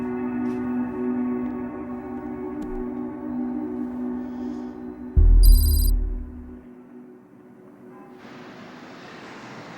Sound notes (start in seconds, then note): 5.4 letters click